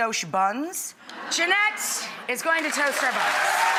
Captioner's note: audience laughing; audience applauding